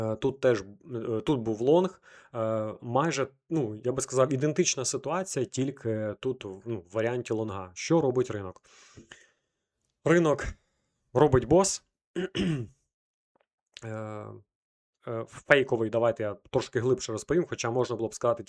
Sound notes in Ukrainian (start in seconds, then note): 12.1 прочищення горла